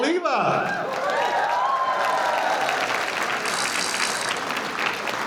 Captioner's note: audience cheering